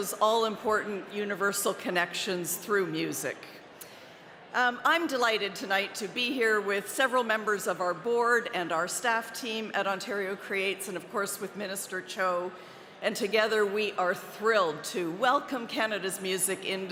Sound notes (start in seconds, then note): none